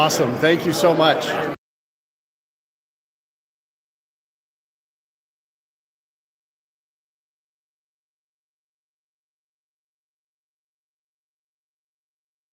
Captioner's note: no audio